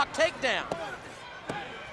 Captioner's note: body thudding; hands thudding